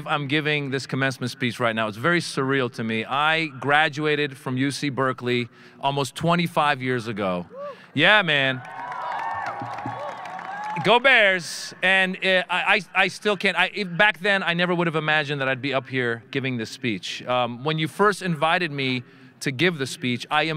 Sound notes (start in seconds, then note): 8.2 audience cheering; 8.9 audience member whooping